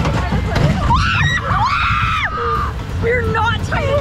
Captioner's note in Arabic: كلاهما يصرخ